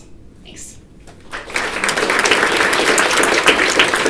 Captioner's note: applause